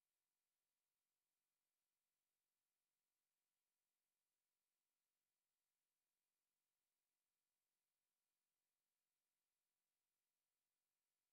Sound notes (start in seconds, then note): none